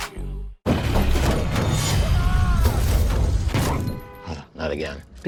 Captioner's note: van crashing